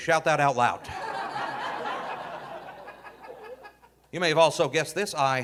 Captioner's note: audience laughing